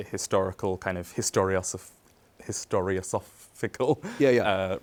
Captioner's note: chuckles